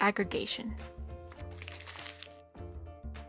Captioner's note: paper crinkles